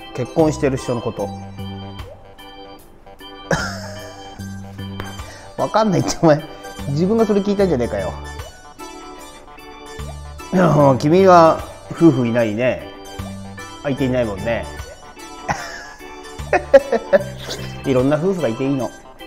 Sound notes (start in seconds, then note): 16.3 laughs